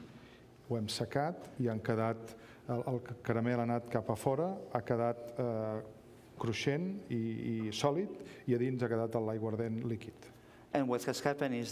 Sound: speaking catalan

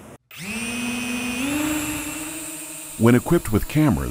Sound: drone whirring

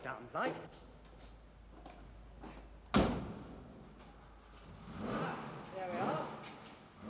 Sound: engine starts

